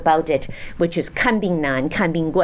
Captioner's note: speaks in foreign language